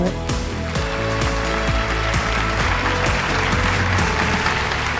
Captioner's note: audience applauding